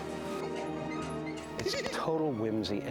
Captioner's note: giggling